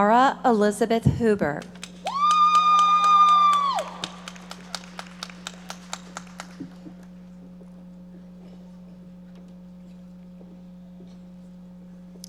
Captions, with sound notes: Mara Elizabeth Huber. (audience members cheering and applauding)